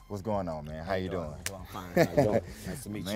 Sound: laughing

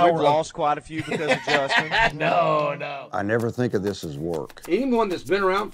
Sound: laughs

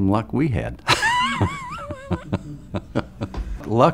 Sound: laughs

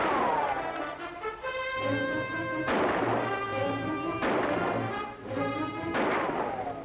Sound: gun shots continue

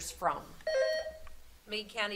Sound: buzzer sounding

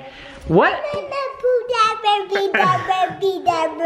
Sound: baby talk

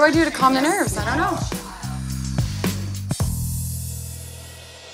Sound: sighs

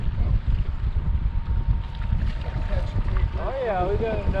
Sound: boat engine idling

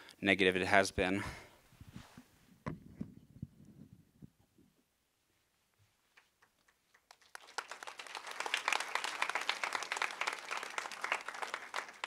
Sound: applause

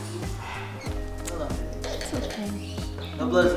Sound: kisses

